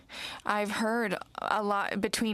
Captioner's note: speaking french